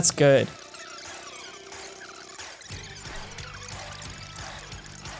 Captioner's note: tape fast forwarding